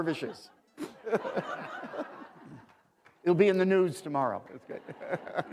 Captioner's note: laughter